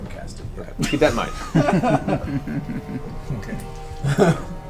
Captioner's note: all laugh